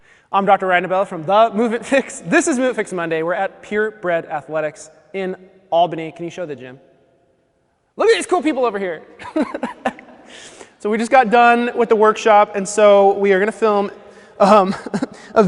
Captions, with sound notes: - I'm Dr. Ryan DeBell from The Movement Fix. This is Movement Fix Monday, we're at Purebred Athletics in Albany, can you show the gym? Look at these cool people over here. (laughs) So we just got done with the workshop, and so we are gonna film a video